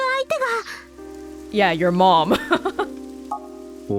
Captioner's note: chuckles